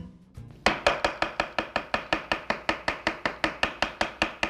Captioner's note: chopping